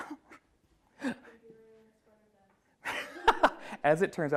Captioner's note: laughs; woman speaks off mic; laughs